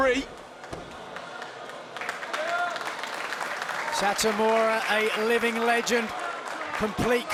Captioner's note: applause